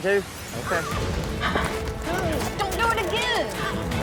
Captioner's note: horse neighs